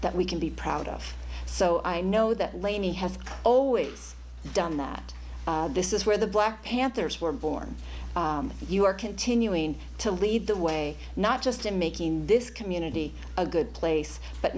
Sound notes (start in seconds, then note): none